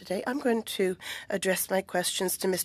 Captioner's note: speaking French